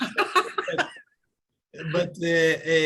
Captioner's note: laughing